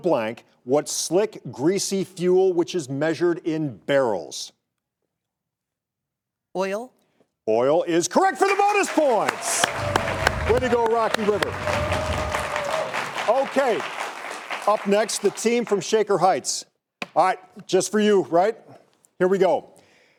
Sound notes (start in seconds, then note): 9.3 all laughing; 11.8 audience applauding